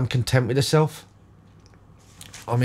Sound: silence

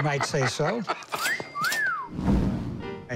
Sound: whistling

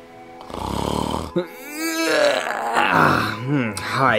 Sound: snores

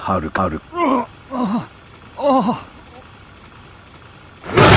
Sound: pained grunts

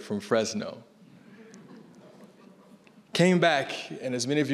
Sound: audience laughing

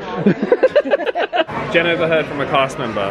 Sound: they laugh

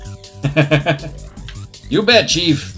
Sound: laughs

